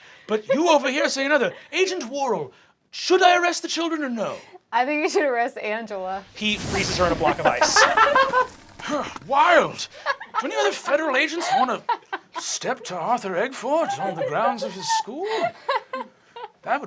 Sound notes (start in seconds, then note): 6.9 cast laughing; 13.8 laughing